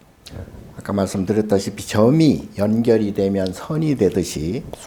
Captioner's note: speaking Korean